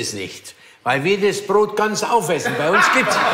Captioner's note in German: Lachen